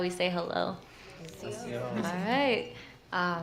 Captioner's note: non-english speech